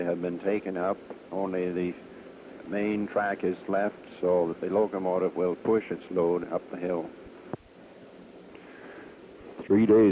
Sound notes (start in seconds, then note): none